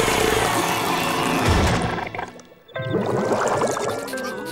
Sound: groaning

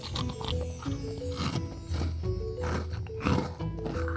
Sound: crunching of food

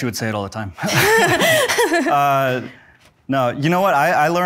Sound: both laughs

